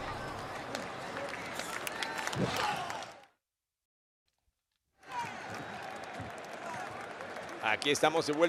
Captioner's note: applause